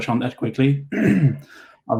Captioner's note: clears throat